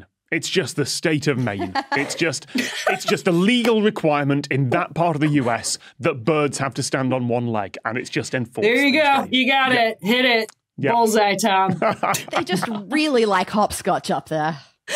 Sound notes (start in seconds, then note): 1.2 guests laughing; 11.6 laughs